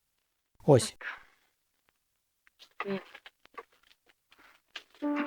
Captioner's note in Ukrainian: none